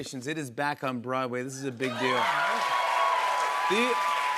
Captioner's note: cheers and applause